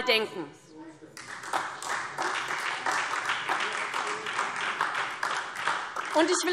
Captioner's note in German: Beifall SPD